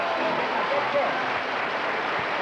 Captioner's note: applause